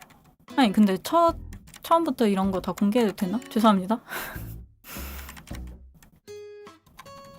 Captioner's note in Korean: 한숨